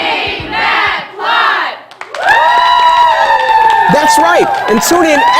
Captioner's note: cheers